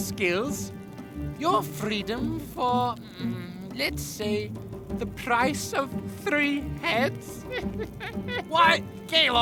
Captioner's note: laughs